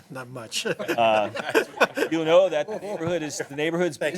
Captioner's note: laughter